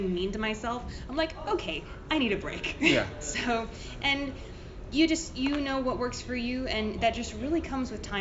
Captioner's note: laughs